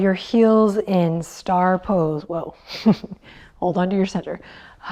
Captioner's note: chuckles